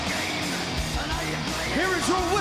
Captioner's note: energetic rock music; crowd cheering